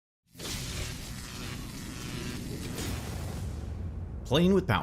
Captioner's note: electricity crackling